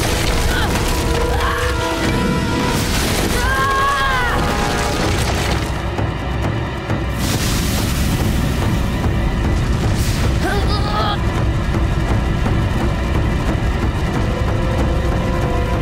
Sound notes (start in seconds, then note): 0.1 grunting; 3.3 screaming; 10.1 grunting